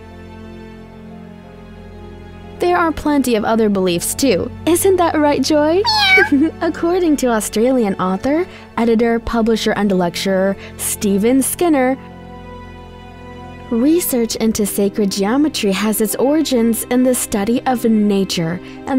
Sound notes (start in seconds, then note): 5.8 meowing; 5.8 giggles